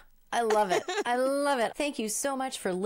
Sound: laughing

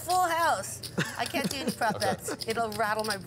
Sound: laughing

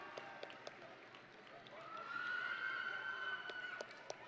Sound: audience and graduates applauding; audience and graduates cheering

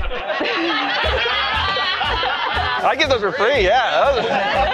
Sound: laughter

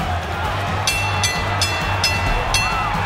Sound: bell rings

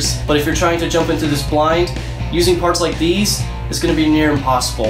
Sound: none

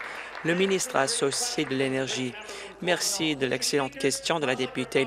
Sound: applause

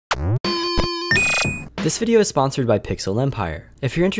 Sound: video game beeping

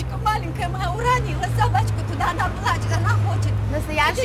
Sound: speaks in Russian

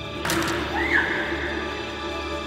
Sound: something snaps. Tay screams

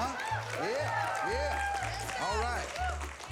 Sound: cheering

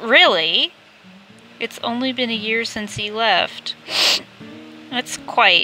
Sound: sniff

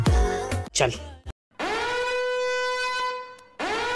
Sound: intense siren noises

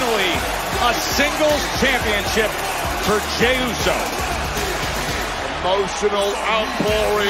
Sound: cheers and applause

